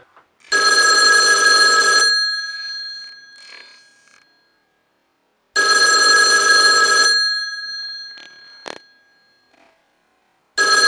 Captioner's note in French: Sonnerie de vieux téléphone